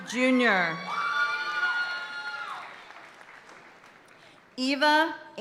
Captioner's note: audience cheering and applauding continues